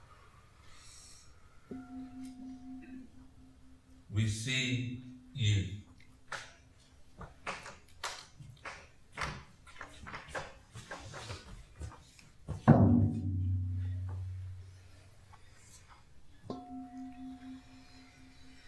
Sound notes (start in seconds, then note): 12.6 single Drum beat; 16.5 gong of a bell